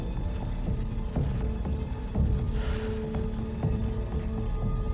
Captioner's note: breathing heavily